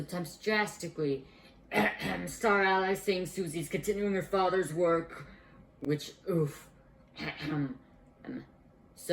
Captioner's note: cough-cough